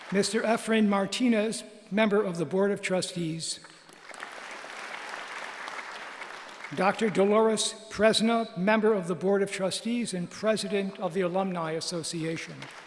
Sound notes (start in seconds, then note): 3.8 applause; 12.4 applause